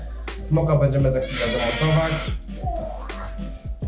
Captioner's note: parror screams in backgound KEK XD